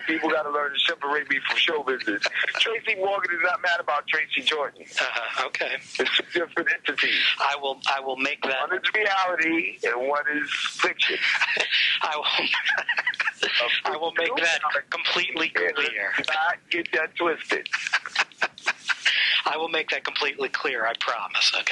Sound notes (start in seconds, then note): 10.4 laughs